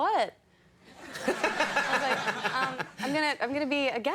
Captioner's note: audience laughter